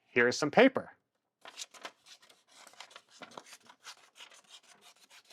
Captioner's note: plastic crinkling